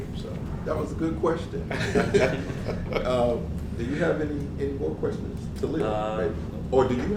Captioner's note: laugh